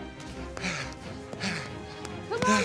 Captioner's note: panting